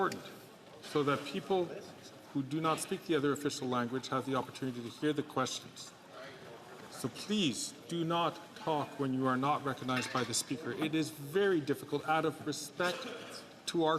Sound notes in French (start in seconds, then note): 4.8 voix de l'interprète